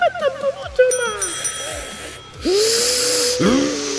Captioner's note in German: Glockenschlags